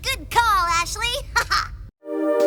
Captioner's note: laughs